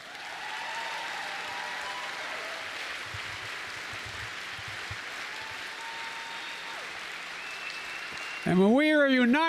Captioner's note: applause